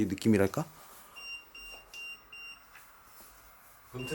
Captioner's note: beeping; beeping